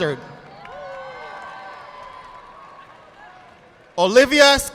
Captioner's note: audience clapping